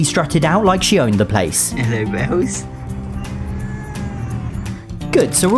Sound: Ralph meows

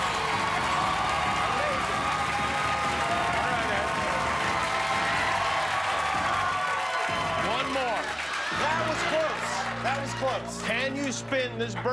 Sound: cheers and applause

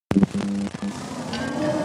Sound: sfx: static

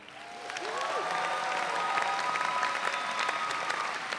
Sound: audience cheering

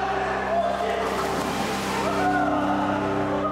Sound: water splashes

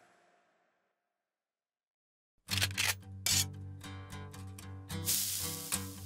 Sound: sizzle; guncocks

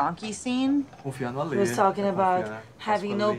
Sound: man speaking in foreign language

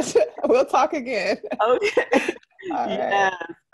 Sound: laughter

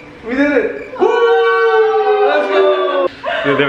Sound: group shouts

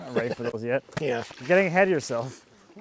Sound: laughs

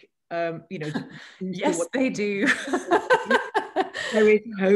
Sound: laughter

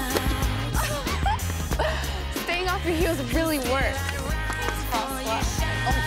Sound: laughs

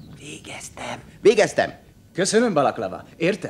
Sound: whispers

